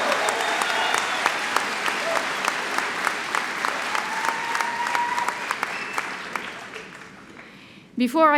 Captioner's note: cheering and Applause